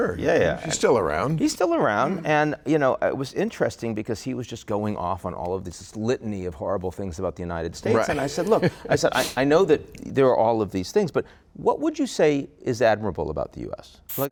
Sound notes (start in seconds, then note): 7.9 laughing